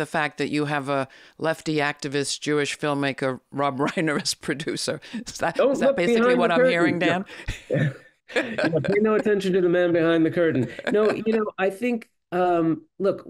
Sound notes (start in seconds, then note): 8.3 laughs